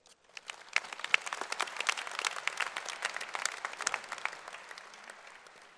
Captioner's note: applause